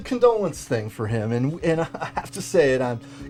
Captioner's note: chuckles